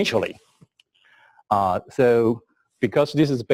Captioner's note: pause